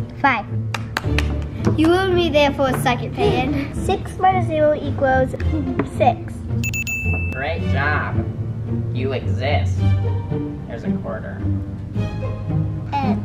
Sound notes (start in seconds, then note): 0.7 claps; 6.6 bell rings